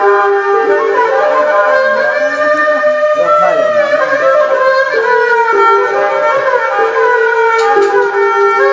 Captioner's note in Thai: ปรบมือ